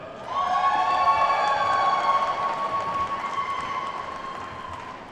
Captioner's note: attendees whooping and clapping